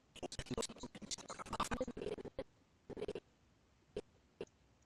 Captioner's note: audio skipping